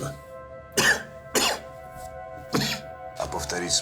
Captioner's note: coughs